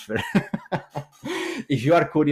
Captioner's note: chuckles